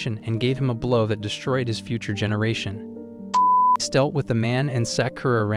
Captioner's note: beep